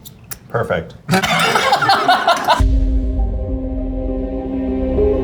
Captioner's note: laughs; tense music